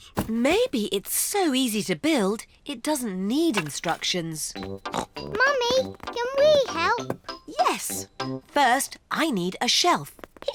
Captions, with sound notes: Maybe it's so easy to build, it doesn't need instructions. (SNORTS) Mummy, can we help? Yes. First I need a shelf.